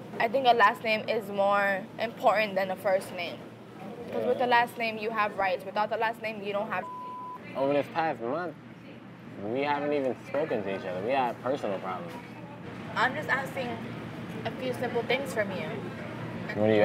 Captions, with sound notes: I think a last name is more important than a first name. 'Cause with the last name, you have rights. Without the last name, you don't have (beep). - I mean, this past month, we haven't even spoken to each other. We have personal problems. - I'm just asking a few simple things from you.